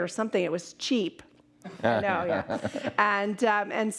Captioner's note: laughing